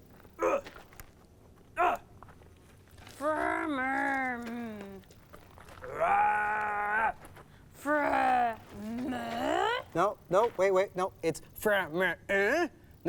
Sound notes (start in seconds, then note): 0.0 sighs; 0.2 grunting; 2.7 growling